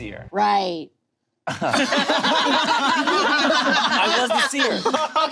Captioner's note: group laughing